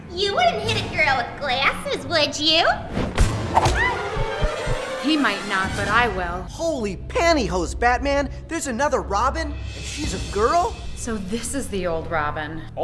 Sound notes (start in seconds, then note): 3.8 Harley Quinn whimpering; 3.8 punch thudding